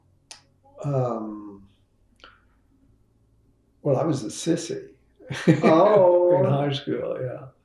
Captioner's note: laughs